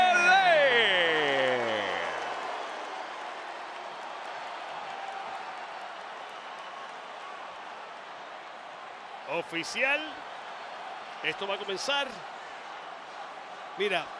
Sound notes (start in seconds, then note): 2.3 applause